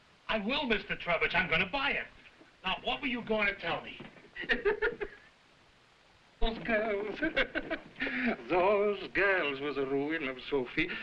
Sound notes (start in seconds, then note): 4.3 Burgomil laughing